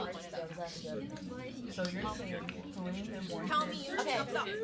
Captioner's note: students murmur